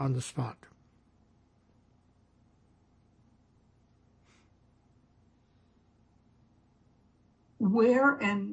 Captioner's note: pauses 6 seconds